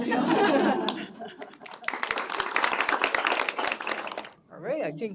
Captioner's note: applause